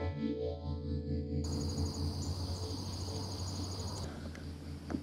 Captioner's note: various animal noises